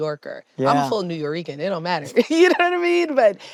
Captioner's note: laughs